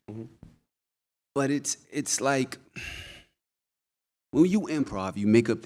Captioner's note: sighs